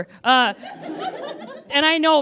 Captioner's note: audience giggles